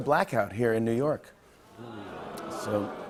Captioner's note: crowd murmuring